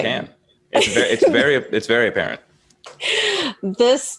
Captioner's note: laughs